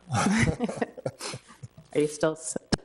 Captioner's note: both laughing